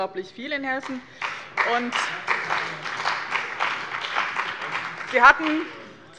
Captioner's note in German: Beifall bei dem BÜNDNIS 90/DIE GRÜNEN und der CDU